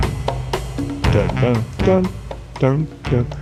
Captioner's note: vocalizing horn melody